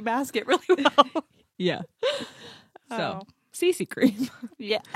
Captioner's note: laughs